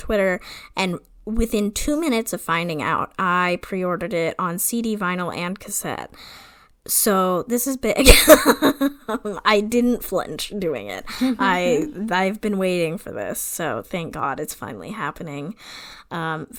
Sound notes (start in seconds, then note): 8.1 laughs